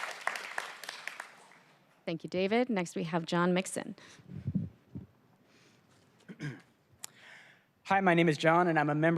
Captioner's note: applause